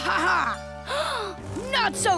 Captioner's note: gasps